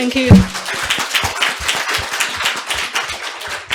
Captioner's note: audience applauds